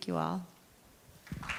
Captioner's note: applause